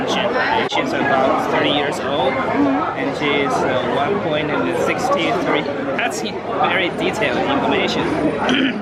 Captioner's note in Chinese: 笑声